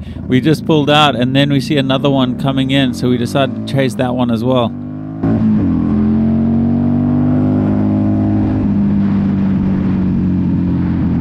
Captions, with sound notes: We just pulled out and then we see another one coming in. So we decided to chase that one as well. (engine roaring)